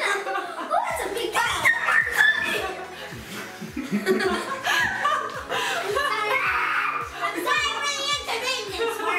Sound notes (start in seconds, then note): 6.3 screaming